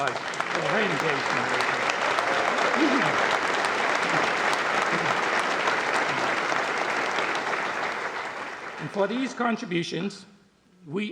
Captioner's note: applause